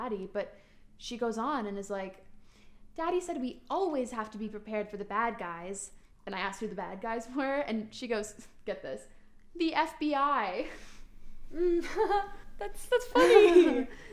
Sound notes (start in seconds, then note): 1.9 imitating young girl; 9.9 laughs